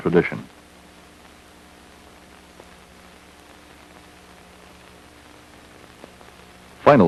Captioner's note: static